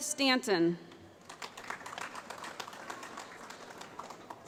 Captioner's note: applause